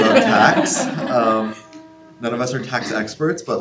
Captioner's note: students laugh